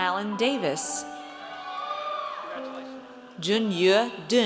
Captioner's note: audience cheers